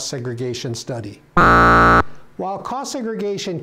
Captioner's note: buzzer